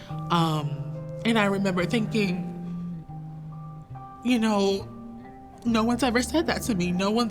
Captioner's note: voice breaking